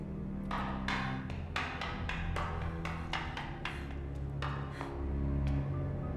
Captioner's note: dark brooding music; footsteps tapping on stairs